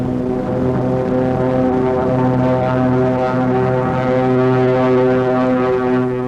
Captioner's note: planes flying overhead